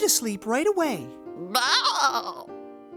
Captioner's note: bleating happily